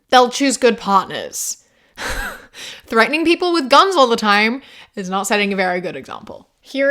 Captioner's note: exhales